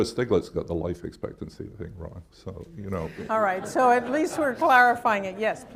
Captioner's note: laughter